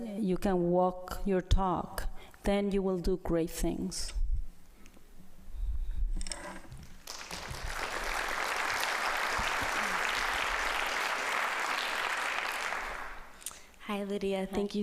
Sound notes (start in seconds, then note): 6.9 applause